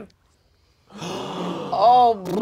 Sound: panel gasps

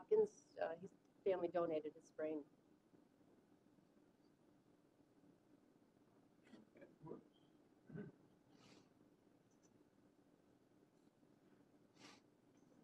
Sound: off microphone

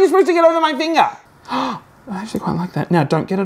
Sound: gasps

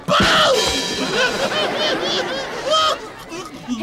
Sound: laughing

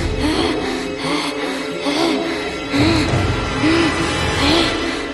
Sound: chanting

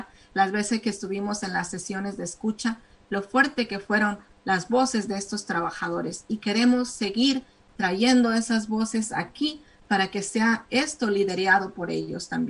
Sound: speaking spanish

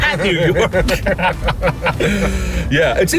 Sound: laughing

